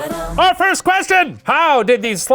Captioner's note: gasping